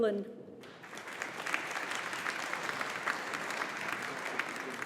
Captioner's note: audience applauding